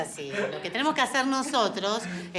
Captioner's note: laughs